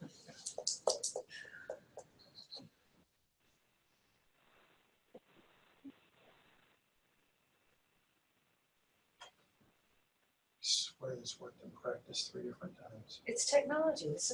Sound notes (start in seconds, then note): 2.7 silence - waiting